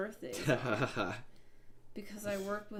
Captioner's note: laughing